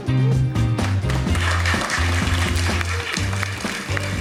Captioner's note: applause